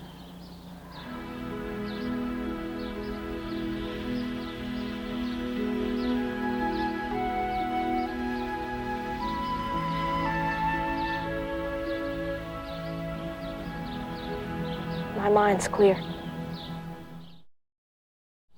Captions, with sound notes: (birds chirp) (gentle meditative music) - My mind's clear.